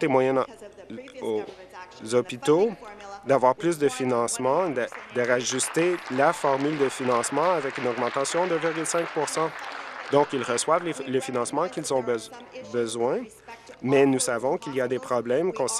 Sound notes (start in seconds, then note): 10.3 applause